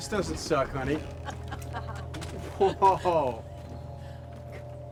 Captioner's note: laughing